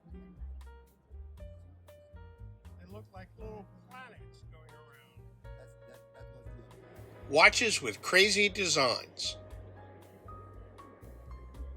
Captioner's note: crowd noise